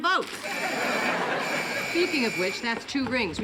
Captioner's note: buzzing